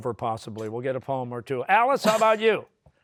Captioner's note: laughs